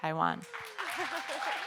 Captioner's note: audience members applauding; giggling